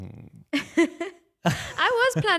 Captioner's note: laughing